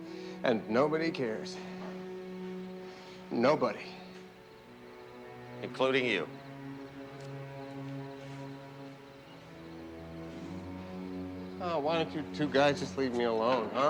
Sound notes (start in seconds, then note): 2.9 gasps